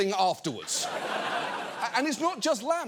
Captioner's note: studio audience laughing